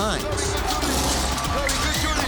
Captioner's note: growls